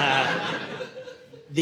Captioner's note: audience laughing